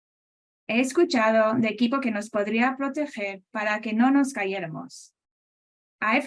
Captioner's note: speaking Spanish